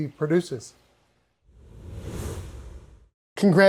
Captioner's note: air whooshing